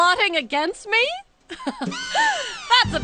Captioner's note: laughing